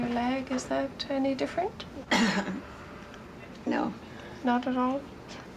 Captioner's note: coughs